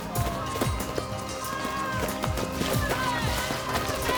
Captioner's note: crowd murmuring